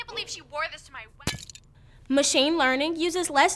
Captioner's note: phone cracks